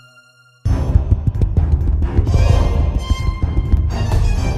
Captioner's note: running footsteps